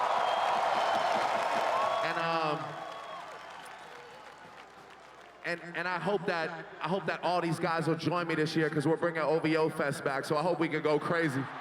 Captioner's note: cheering and Applause